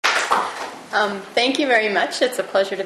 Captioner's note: clapping